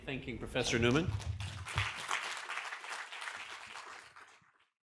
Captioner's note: audience claps